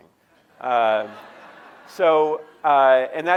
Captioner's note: audience laughing